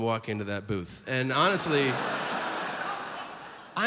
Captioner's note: audience laughs